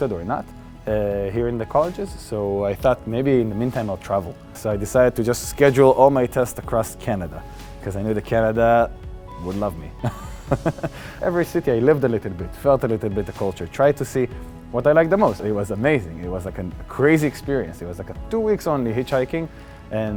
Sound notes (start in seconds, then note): 10.1 laughing